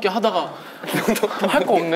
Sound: laughing

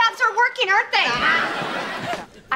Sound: screaming

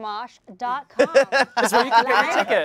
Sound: laughing

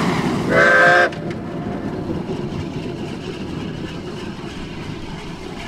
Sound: one whistle blast

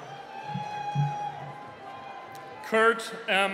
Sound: cheering

